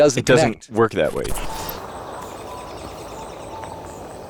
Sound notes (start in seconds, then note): 1.3 birds chirping